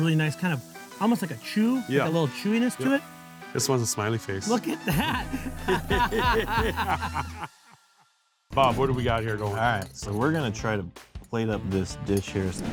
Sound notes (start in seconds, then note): 4.4 laughing; 4.5 laughs